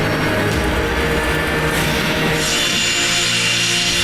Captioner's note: intense music; jet noises